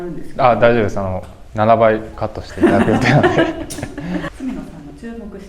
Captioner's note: laughs